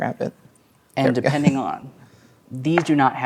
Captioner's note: chuckles